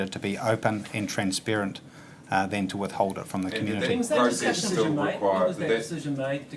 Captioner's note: voices off camera